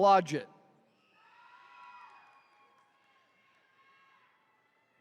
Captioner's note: attendees cheering